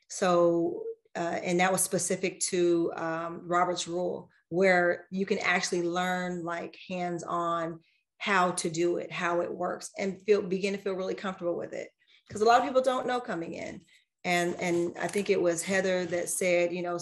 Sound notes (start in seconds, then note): none